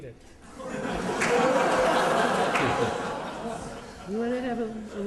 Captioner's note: laughter